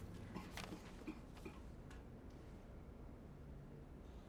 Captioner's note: spectator coughs